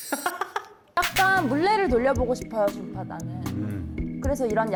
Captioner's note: design decision sound effect